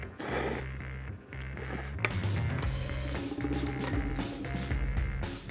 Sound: slurping

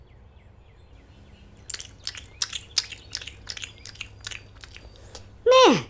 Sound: chewing

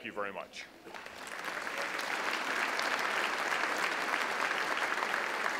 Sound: audience applauds

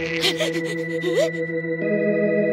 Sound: gasps

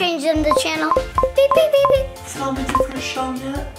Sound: remote beeping

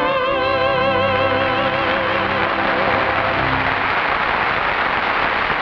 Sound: audience applauds

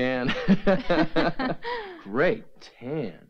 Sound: lightly laughing

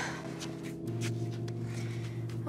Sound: April sighs

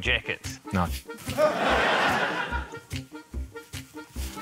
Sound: laughter

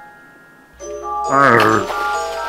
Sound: Bigfoot grunts

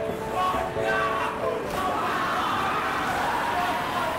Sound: young men chanting haka

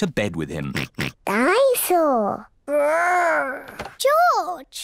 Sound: oinks

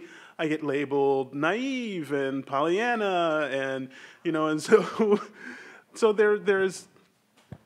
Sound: laughs

